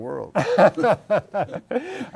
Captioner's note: laughter